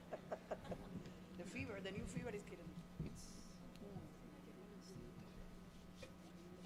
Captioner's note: chuckling; speaking in Spanish